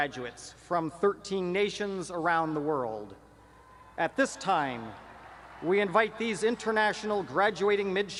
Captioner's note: cheering